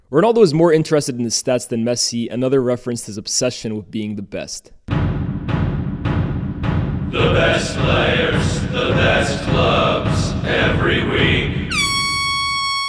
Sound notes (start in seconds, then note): 4.9 drumming; 6.8 chanting together; 11.7 air horn blowing